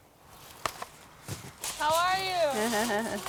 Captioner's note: bags ruffle